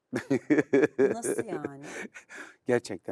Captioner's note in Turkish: kahkaha